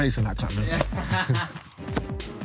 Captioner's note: laughing